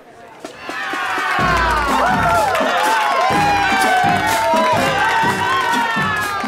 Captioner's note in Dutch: cheers